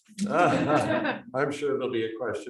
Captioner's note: audience laughing